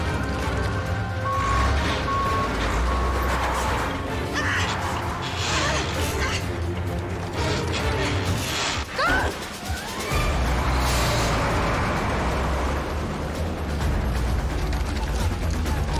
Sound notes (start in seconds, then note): 4.2 grunts loudly